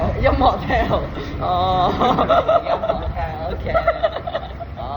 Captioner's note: Cantonese